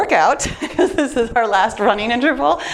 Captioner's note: laughs